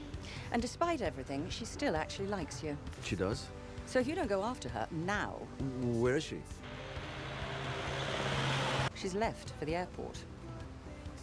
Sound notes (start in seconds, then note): 6.6 engine rumbling